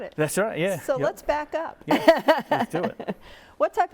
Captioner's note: chuckles